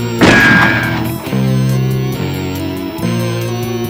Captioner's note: gun fires